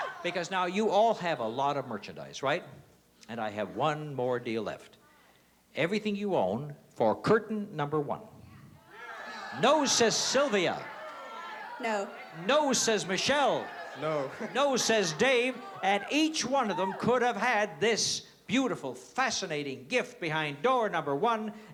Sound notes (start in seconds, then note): 13.5 laughs